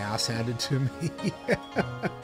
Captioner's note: laughs